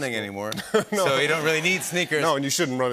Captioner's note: chuckles